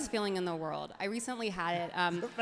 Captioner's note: everyone laughs happily